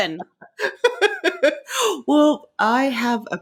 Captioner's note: laughing